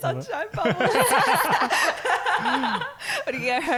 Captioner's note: laughing